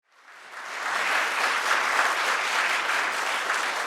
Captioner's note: audience claps